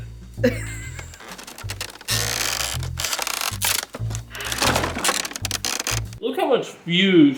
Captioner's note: sound of wood creaking, splintering